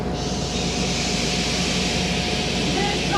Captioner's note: choir shushing